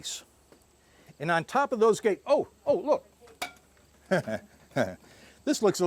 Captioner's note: chuckling